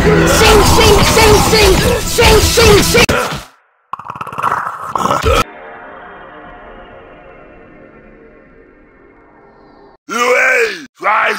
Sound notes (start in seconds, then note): 3.6 speaks mythic predator boss language